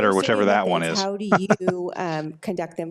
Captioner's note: laughs